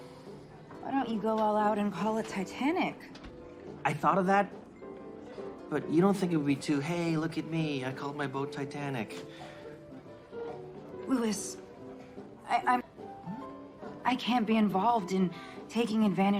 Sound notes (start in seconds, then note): none